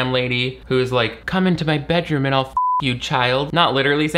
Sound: beep

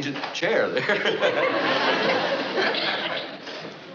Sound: laughing

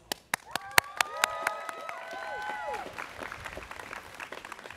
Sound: students cheering

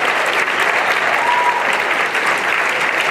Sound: applause

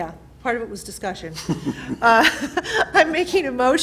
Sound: laughter

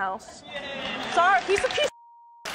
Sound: crowd cheering

